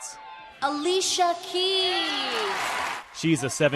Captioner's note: cheering